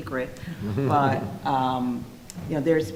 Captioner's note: laughing